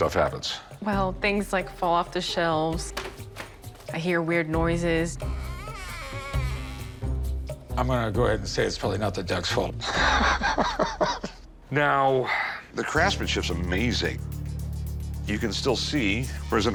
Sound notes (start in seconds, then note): 5.3 door squeak; 9.8 chuckles